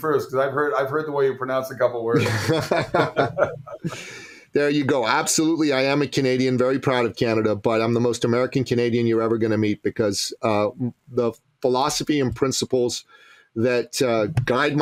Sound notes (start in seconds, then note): 2.1 laughing